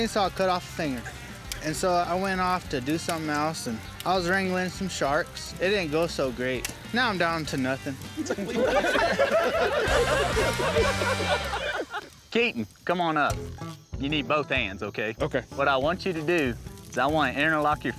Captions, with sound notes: CHAINSAWS WILL CUT OFF A FINGER. AND SO, I WENT OFF TO DO SOMETHING ELSE. AND I WAS WRANGLING SOME SHARKS. IT DIDN'T GO SO GREAT. NOW I'M DOWN TO NOTHING. - WHAT? [ALL LAUGHING] KEATON, COME ON UP. YOU NEED BOTH HANDS, OKAY? - OKAY. WHAT I WANT YOU TO DO IS I WANT TO INNER LOCK YOUR